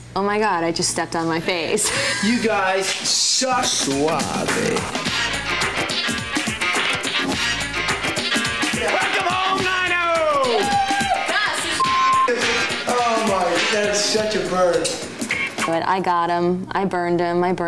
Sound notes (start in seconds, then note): 4.5 upbeat music; 11.8 beep